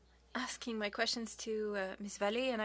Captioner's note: speaking French